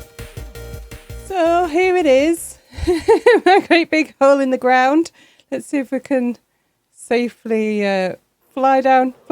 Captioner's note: laughing